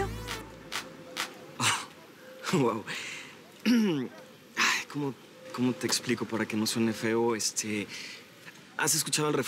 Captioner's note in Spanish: Carraspea